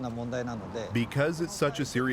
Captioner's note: speaking Japanese